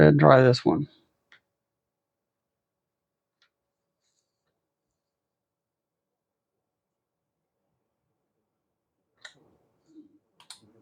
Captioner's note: clicking